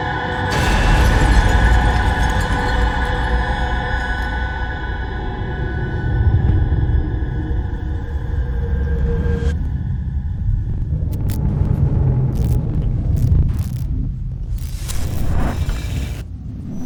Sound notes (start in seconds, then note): 0.4 shattering; 10.9 distorted crackling